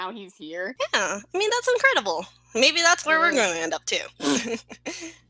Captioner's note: pfft